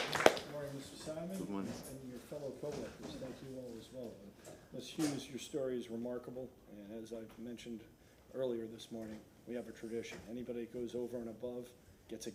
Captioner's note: applause